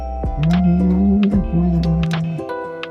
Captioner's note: humming